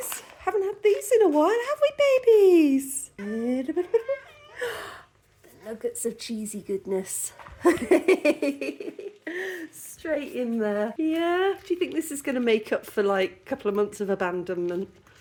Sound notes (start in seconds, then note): 4.5 gasp; 7.9 laughing